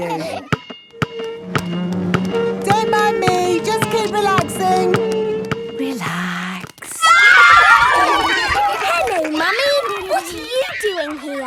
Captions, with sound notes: (chair scraping) Don't mind me! Just keep relaxing! - Relax... (kids screaming) (laughter) - Hello, Mummy. What are you doing here?